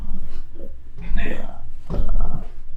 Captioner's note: achmet – artificial male voice